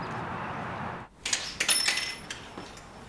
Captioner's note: bell chimes